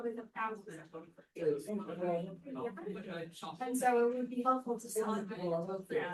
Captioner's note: background chatter